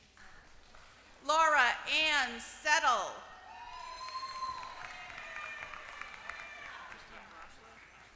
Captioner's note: applause